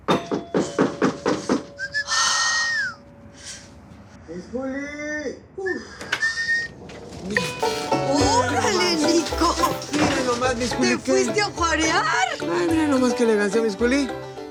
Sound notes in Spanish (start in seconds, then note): 0.1 Toques en la puerta; 0.1 Silbidos; 5.6 Silbidos